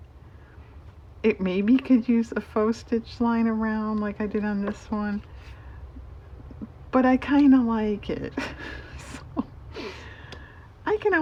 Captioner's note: laughs